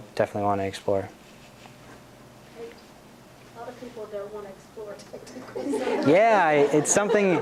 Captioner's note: laughs